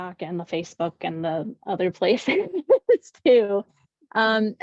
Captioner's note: laughs